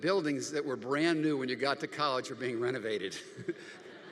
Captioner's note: audience laughing; laughs